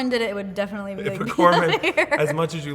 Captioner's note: laughing